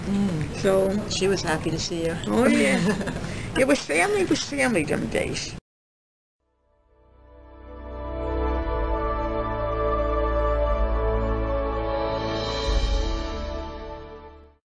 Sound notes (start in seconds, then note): 2.4 both laugh